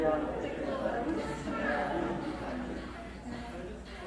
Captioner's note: none